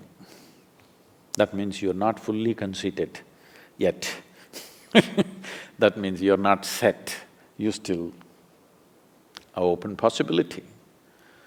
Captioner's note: laughs